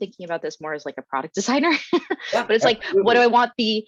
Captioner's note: chuckles